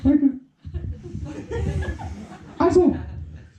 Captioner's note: giggling